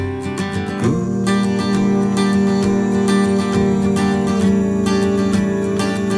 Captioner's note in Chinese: 咕噜…